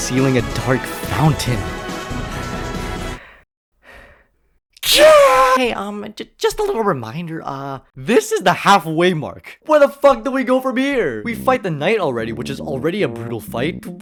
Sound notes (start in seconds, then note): 2.3 heavy breathing